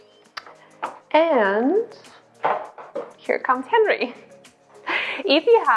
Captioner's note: laughs